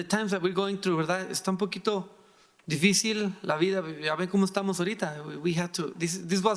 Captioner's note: speaking in foreign language